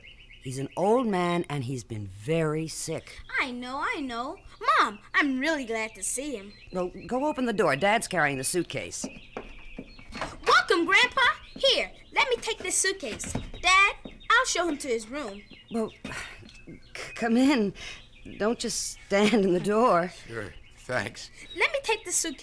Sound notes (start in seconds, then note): 9.4 door opens; 10.3 footsteps approaching; 16.0 sighs